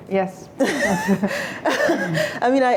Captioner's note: laughter